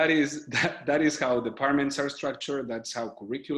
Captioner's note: chuckles